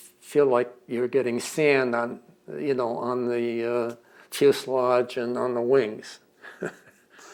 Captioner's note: laughs